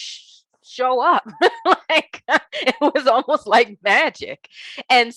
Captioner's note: laughing